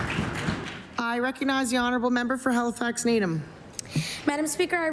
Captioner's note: applause